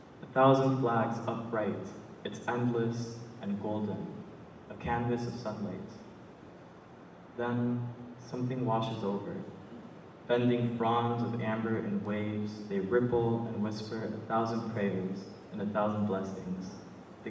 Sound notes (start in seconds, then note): none